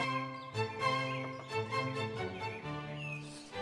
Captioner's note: classical music; birds chirping